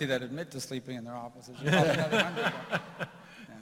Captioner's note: laughter